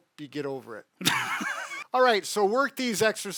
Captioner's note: laughs